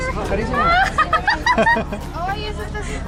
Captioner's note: laughter